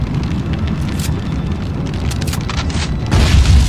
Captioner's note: gun clicks; explosion booms